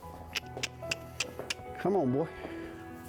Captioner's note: trainer clucking